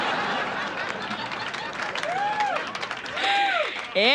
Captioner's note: audience laughter